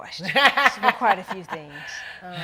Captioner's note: laughing